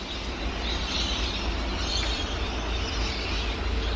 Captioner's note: rain